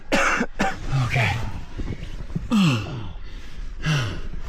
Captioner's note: coughs; grunts